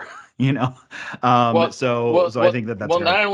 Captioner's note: chuckles